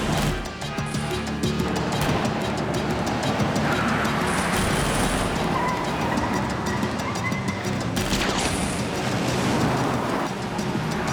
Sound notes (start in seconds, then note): 4.5 gunshots